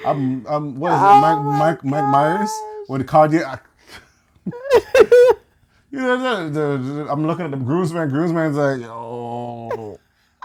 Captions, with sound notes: What is it, Mike Myers? When Kanye-- [LAUGHTER] I'm looking at the groomsman. Groomsman's like, "Yoooo."